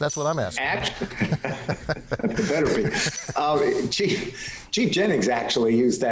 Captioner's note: panel laughing